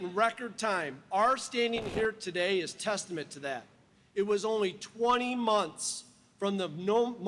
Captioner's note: applause